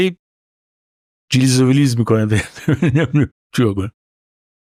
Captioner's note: laughs